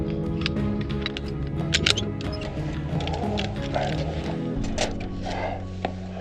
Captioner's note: jumar clicking; breathing